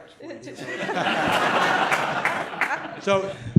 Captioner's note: laughter